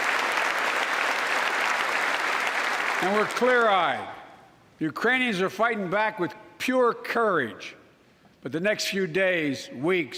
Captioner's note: applause